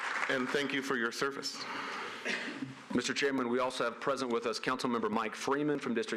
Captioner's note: applause